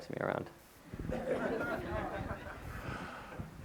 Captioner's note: audience laughter